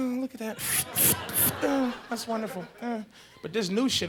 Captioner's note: mimics paper tearing